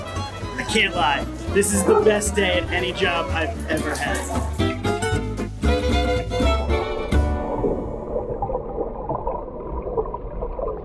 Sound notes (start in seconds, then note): 3.0 ukulele music playing; 6.7 underwater sounds